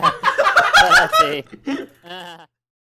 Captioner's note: laughs